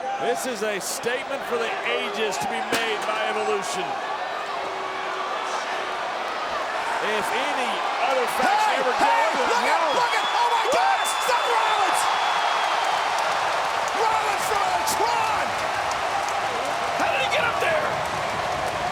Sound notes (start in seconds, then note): 5.1 audience jeers; 12.4 audience cheers